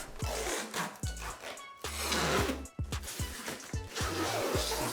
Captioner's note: film crinkles